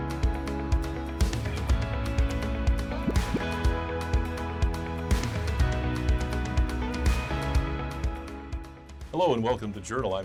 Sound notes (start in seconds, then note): 3.0 graphic pops